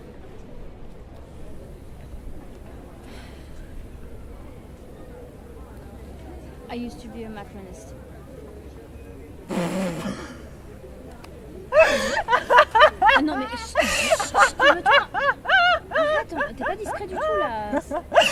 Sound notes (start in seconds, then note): 9.3 Grantaire looks at her and laughs very loud. Marius protest